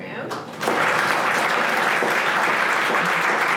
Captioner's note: audience applauding